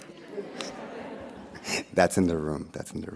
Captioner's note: audience laughing